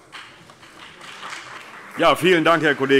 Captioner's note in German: Beifall BÜNDNIS 90/DIE GRÜNEN und vereinzelt CDU